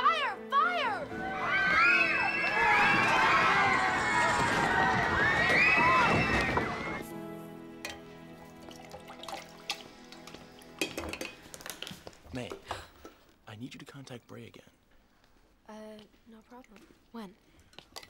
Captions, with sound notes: - Fire, fire. (screams) - May, I need you to contact Bray again. - Uh, no problem, when?